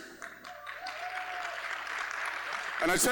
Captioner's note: applause